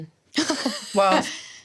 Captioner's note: laughing